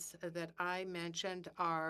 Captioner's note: speaking in French